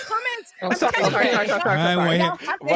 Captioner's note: all chattering